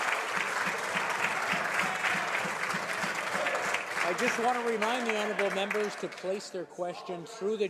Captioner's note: some Applause